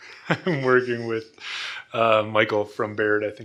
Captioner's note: laughs